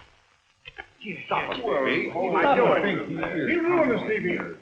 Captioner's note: angry chattering